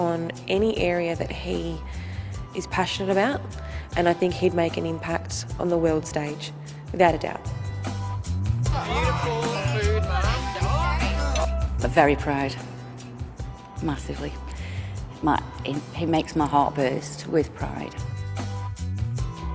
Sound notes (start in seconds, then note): 8.7 chattering; 8.8 upbeat music